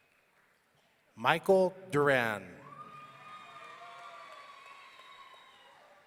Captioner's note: audience cheering